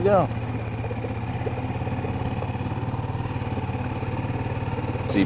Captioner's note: engine rumbling